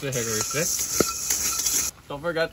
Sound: sticks scrape

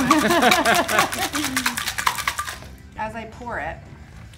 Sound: laughs

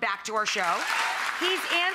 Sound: audience applauding

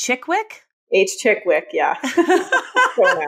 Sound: laughing

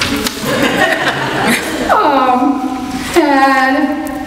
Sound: audience laughs

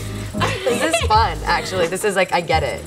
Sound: laughs; soft synth music; laughs

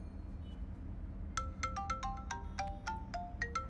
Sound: cell phone ringing

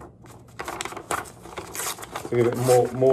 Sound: paper tearing

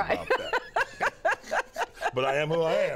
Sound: laughter

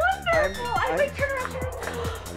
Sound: gasps

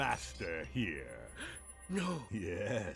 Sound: gasp

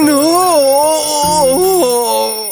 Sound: screaming; crying

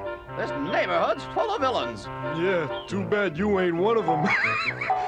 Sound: laughs

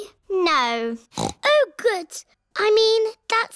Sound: snorts

